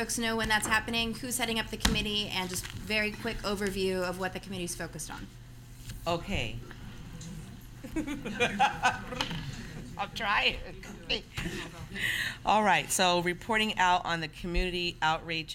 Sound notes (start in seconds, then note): 7.8 laughter